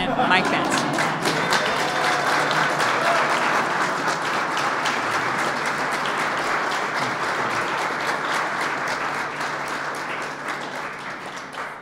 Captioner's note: applause